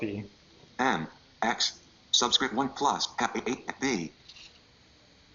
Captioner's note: computer Voice